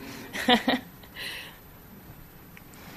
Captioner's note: laughs